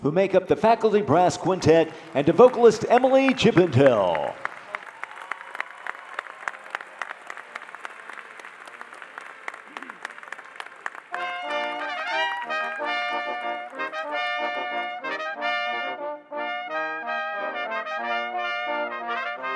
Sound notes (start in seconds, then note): 4.0 audience applauding; 11.0 soft trumpet music